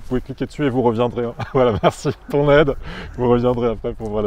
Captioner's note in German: lacht